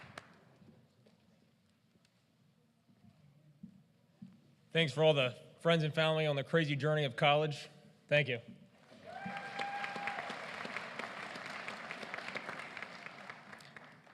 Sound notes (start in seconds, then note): 12.8 applause